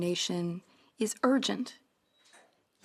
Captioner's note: speaking French